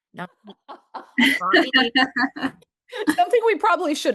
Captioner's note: laughter